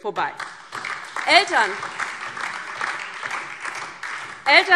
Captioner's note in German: Beifall DIE LINKE und vereinzelt SPD